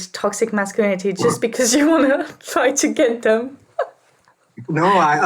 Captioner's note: laughs